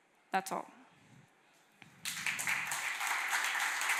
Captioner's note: applause